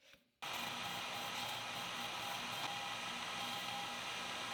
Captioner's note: lathe whirring